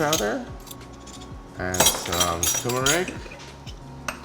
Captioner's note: clinking of spoons